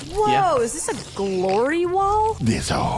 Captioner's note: slorping sounds